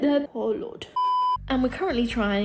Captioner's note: beep